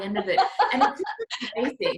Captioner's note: laughs